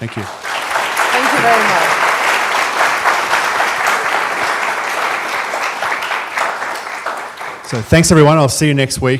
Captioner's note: applause